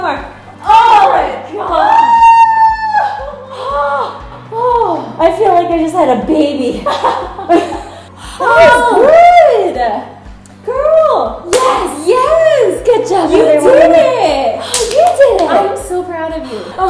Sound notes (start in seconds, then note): 3.4 both panting; 6.8 both laughing; 14.7 clapping